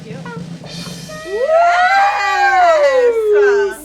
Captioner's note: women cheering